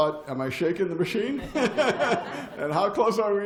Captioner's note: laughter